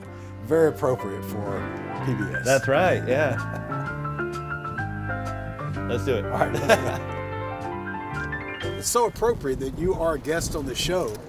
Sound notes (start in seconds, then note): 6.4 both chuckle